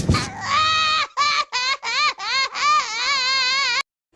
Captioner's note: Zoe Crying